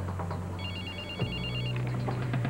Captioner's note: Sonnerie de téléphone